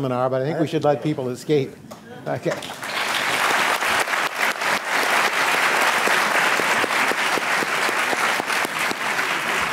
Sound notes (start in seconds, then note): 2.5 applause